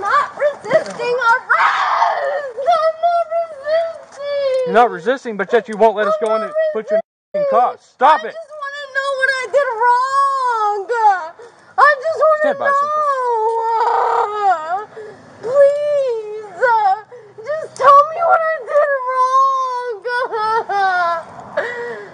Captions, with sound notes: I am not resisting ARREST! *crying* I'm not resisting. You'r not resisting, but yet you won't let us go and put your **** in cuffs. Stop it! I just wanna know what I did wroooooooong-uh! I just wanna knooooooooow-uh! Pleeeeeeeeease-uh! Just tell me what I did wrooong-uh. *crying*